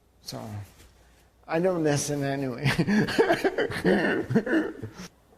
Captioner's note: laughter